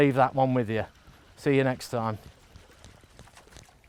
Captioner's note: water splashes